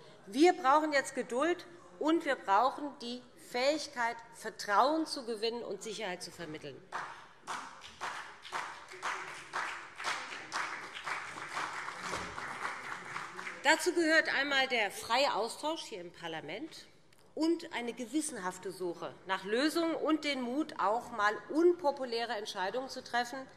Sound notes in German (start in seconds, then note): 6.9 Beifall BÜNDNIS 90/DIE GRÜNEN und CDU